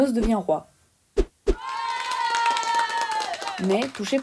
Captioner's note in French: applaudissements